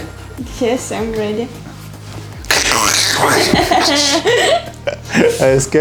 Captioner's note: laughing